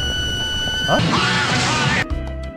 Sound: crumbling, rumbling; kettle boiling pressure intensifies; explosion; serene elevator music

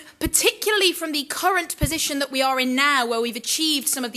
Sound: none

